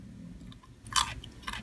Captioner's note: crunching sound